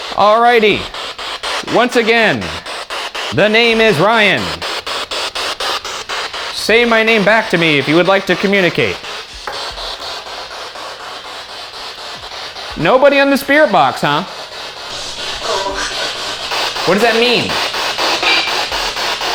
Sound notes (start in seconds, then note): 11.1 static crackling